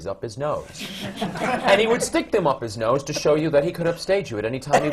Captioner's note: laughter